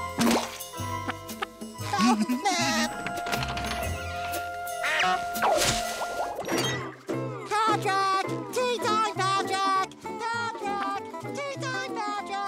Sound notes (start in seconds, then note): 1.8 laughing